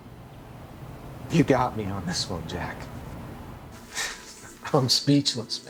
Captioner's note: birds chirping; sighs